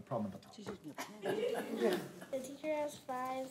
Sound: laughing; speaks faintly

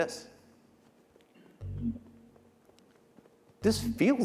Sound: footsteps

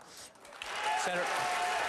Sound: applause

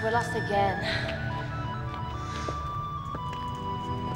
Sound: sighing

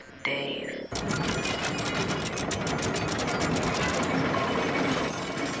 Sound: door mechanisms grind and clank as door opens

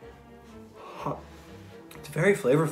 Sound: exhales loudly

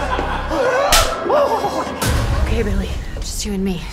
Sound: slap

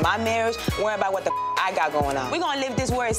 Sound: beep

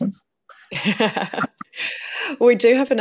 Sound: laughing

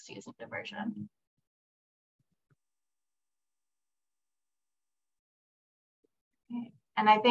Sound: silence

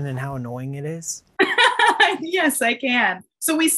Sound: laughs

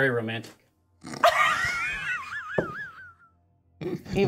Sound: co-hosts laughing

